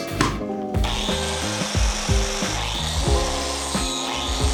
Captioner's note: saw buzzing